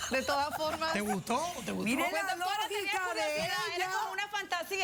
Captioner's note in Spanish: risas